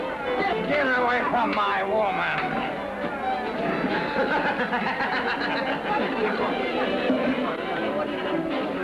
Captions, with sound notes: Get away from my woman. (men laughing)